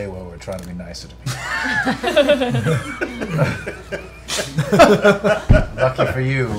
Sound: laughter

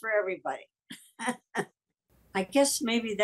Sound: Kathleen laughs

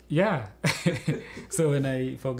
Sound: laughter

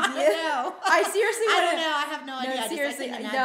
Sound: laughing

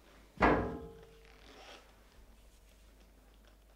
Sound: glass thuds

